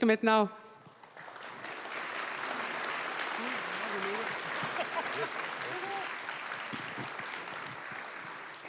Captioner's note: applause